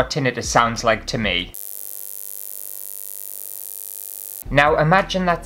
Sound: buzzing Sound

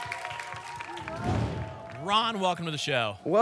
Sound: applause and cheering; whoosh

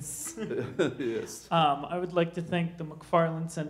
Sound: laughs

